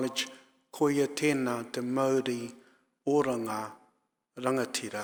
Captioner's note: speaking in foreign language